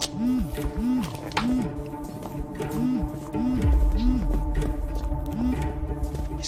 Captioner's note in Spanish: Vibra el celular